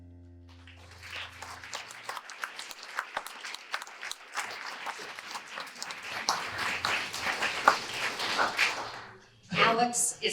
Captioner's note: audience applause